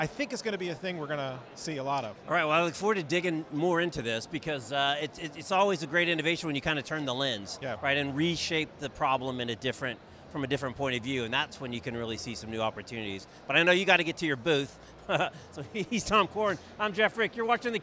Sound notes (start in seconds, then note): 15.1 laughs